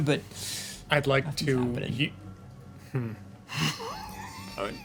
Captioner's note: laughing